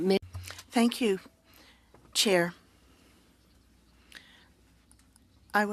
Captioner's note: speaking French